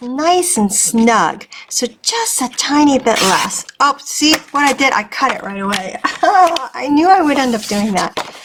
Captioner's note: laughing